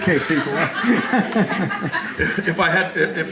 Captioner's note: laughter